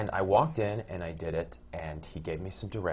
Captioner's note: none